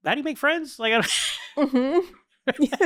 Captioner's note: laughing